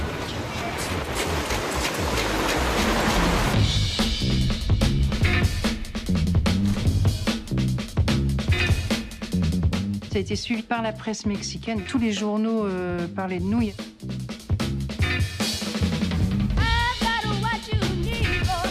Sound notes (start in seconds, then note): 0.1 machinery whirs, clacks